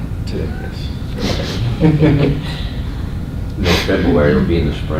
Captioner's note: laughter